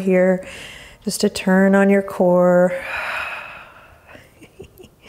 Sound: exhaling strongly; chuckles

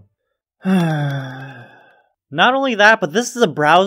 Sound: sigh

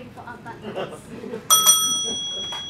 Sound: bell dings

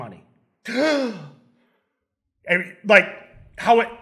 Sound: dramatic gasping

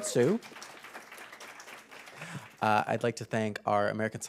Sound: applause

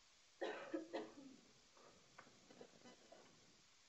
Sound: coughing

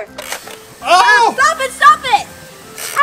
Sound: crocodile closes and sprays

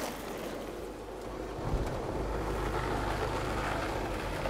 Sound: car starting

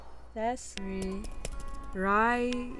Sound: typing

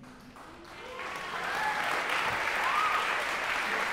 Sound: applause

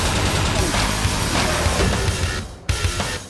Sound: rapid gunfire; epic Heavy Metal Music; chainsaw whirring; epic Heavy Metal Music

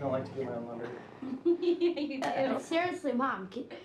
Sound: laughter

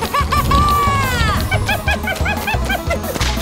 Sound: laughing

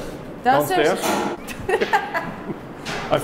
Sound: laughing

